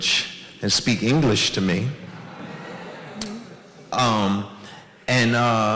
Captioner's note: audience laughs